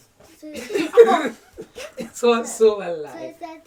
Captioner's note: laughs